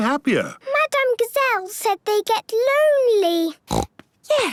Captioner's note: snorting